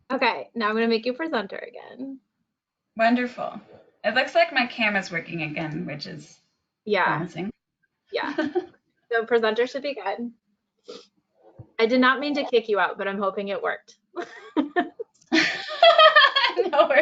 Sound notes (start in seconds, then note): 8.3 laughs; 15.3 both laugh